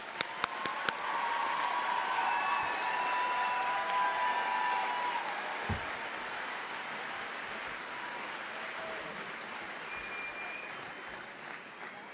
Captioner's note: applause